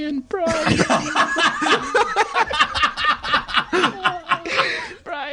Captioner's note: laughter